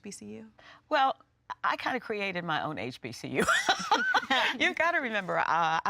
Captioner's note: laughs